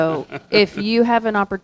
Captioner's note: laughing